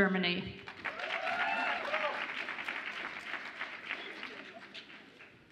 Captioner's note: audience applauds and cheers